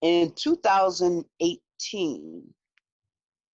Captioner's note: none